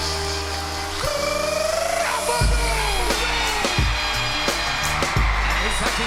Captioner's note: crowd cheering